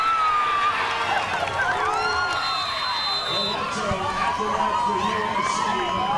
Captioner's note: spectators cheer; whistle blows